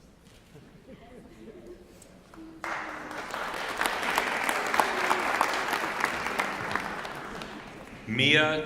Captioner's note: applause